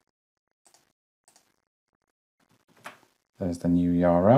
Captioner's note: mouse clicking